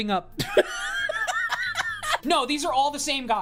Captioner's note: laughing